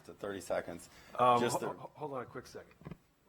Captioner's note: laughter